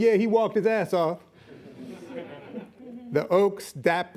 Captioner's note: laughing